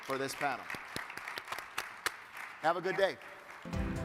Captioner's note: crowd applauding